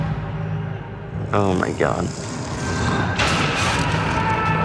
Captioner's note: ominous music; monster growling; Bob screaming